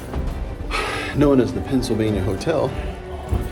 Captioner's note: pants